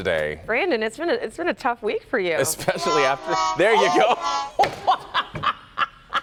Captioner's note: laughter